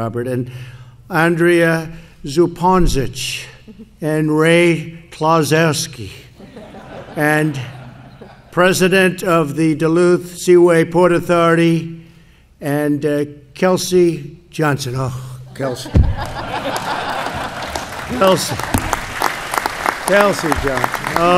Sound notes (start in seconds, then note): 6.3 laughter; 15.6 laughter and applause